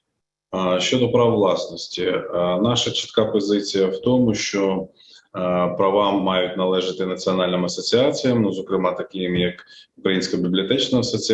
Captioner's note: foreign Language Spoken